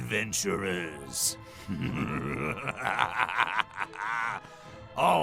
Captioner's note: evil Laugh